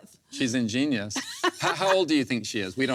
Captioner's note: laughs